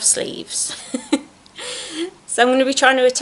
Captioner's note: giggles